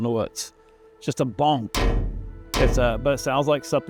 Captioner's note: metal clanging